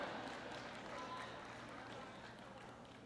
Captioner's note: applause